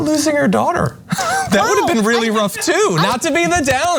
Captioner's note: laugh